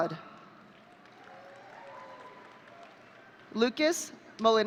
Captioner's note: audience cheering